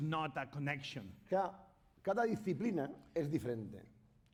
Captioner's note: speaking spanish